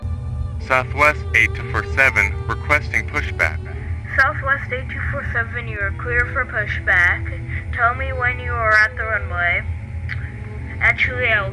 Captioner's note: laughs